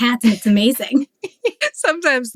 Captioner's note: laughs